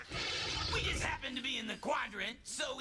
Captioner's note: snarls